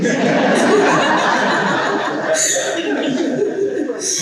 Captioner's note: people laughing